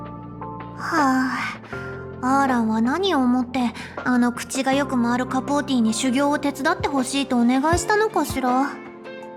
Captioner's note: sigh